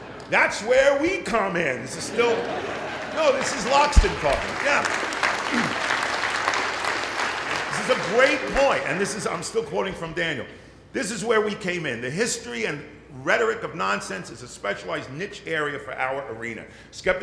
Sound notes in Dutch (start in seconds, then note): 2.4 Applaus